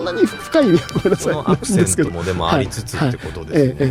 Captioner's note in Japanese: 笑い